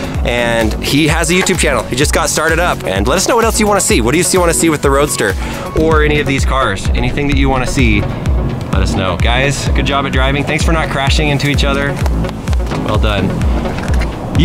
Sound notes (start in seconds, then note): none